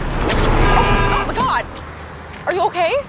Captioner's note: car horn honking